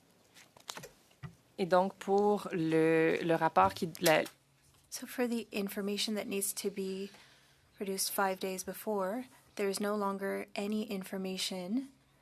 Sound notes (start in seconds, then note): 7.1 speaking French